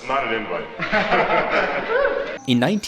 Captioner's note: players laughing